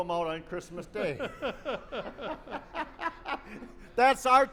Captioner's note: laughter